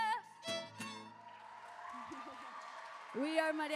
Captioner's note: applause